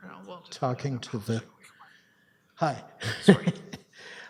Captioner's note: chuckles